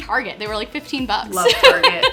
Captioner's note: laughs